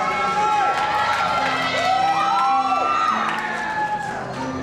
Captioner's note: cheering